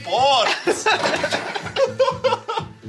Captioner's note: laughing